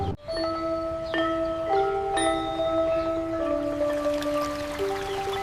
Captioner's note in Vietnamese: chuông